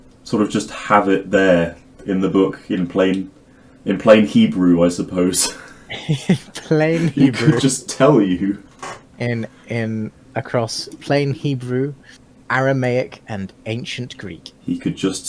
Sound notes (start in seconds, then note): 5.5 chuckling; 5.5 laughing